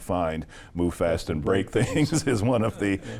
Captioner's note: laughs